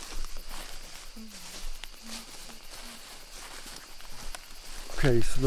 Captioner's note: group chatters